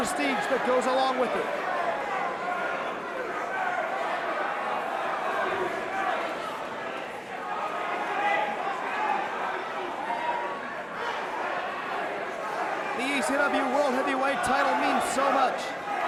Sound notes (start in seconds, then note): 3.2 crowd chatter